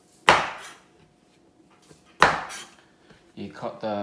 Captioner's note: cutting sound